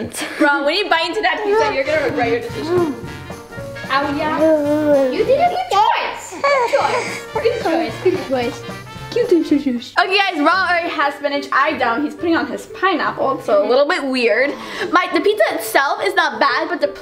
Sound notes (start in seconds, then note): 4.1 baby babbling; 9.4 cooing